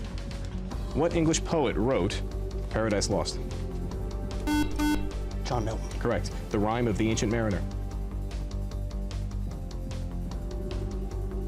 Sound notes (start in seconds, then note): 4.4 beep